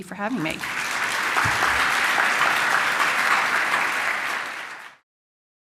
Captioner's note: applause